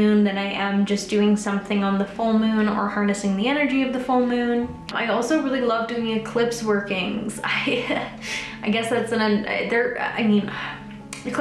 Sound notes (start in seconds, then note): 8.0 laughs; 9.8 stammers; 10.5 sighing